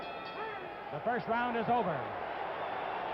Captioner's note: bell rings